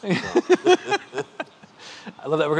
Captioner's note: laughing